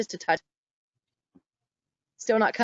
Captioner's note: sound loss